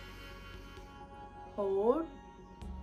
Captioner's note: breathes in